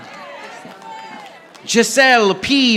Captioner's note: audience applauding